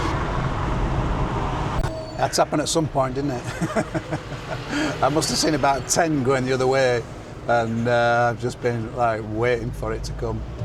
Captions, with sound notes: That's happened at some point, isn't it? (laughs) I must have seen about 10 going the other way, and I've just been waiting for it to come.